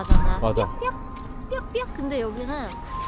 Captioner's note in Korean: 신호등 알림음